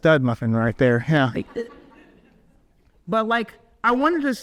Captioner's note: audience laughs